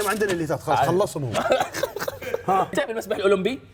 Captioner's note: laughing